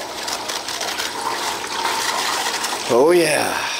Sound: scrapes plastic

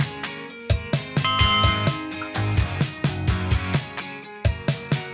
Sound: upbeat music; bell chimes

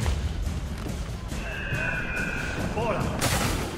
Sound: eagle screech

